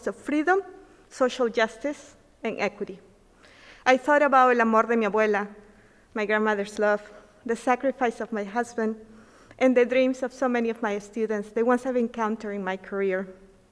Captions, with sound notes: of freedom, social justice, and equity. I thought about (speaking in foreign language), my grandmother's love, the sacrifice of my husband, and the dreams of so many of my students. The ones I have encountered in my career.